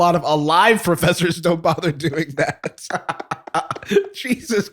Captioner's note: laughter